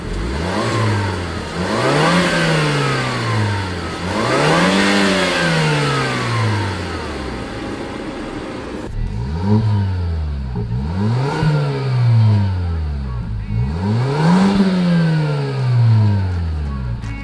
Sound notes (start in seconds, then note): 0.7 engine Revs; 9.4 engine Revs